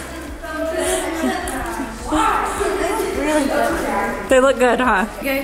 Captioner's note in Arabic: الأطفال يتحدثون في الخلفية ويغرقون